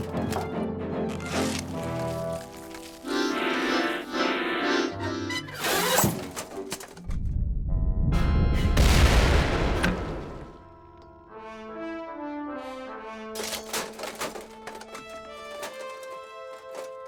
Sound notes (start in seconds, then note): 2.5 accordion plays; 7.3 deep rumble and explosion